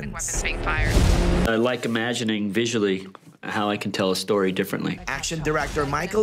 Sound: sound effects

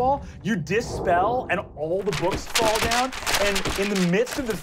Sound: paper crumpling

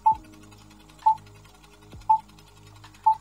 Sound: projector whirring; beeping

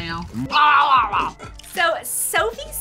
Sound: gurgle sounds

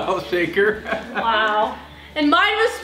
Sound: laughs

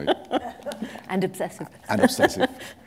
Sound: chuckle

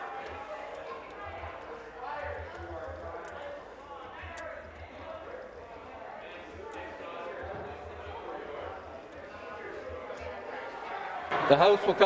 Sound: mixed voices

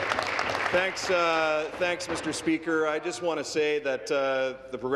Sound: applause

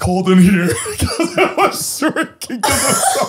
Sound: all laughing

